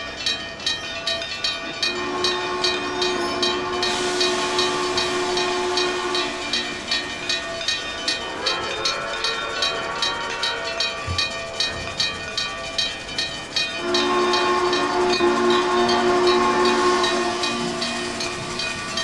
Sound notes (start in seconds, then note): 0.1 Frisco 1522 Whistle; 8.2 NH I-5 whistle; 13.7 Frisco 1522 whistle